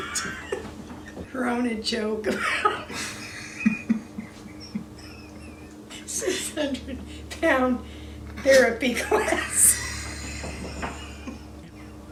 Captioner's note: laughs